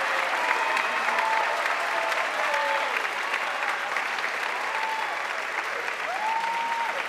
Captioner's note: audience cheering and applauding